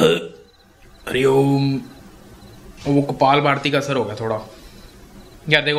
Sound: burps

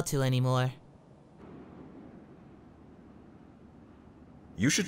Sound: awkward Silence is Awkward

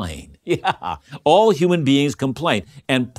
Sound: laughing

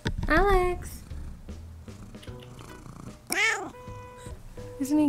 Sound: purring

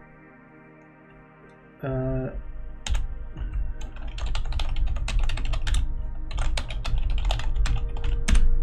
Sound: more furious typing

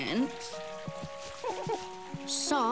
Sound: scratches

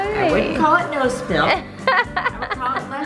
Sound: laughs

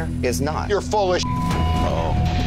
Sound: beeping

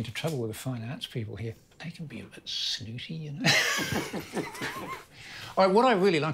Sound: laughs

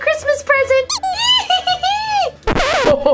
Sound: comical duck squeaks; giggles; record scratches

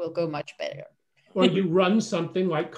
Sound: laughs

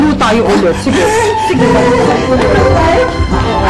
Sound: giggles

